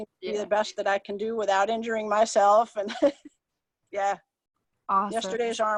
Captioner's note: chuckles